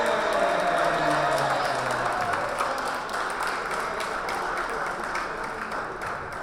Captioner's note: audience and team members applauding